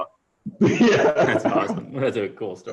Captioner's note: laughter